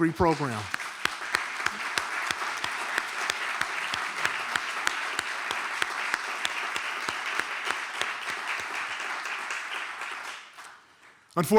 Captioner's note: applause